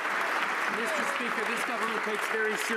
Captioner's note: some Applause